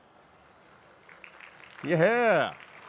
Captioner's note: audience applauds